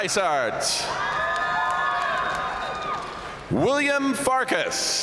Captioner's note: audience cheering and applauding